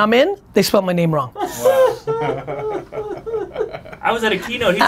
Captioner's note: laughing